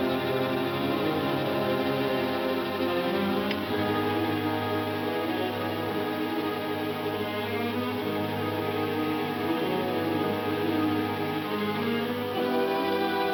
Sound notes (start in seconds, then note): 1.2 gun clicks; 4.5 tense anticipatory music